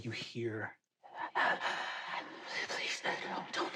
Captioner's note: an echoed gasp